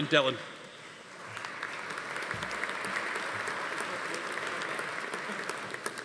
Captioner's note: audience applauding